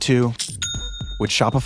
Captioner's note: bell dinging